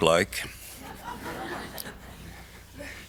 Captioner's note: audience laughs